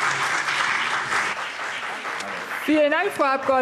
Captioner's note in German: Beifall BÜNDNIS 90/DIE GRÜNEN und CDU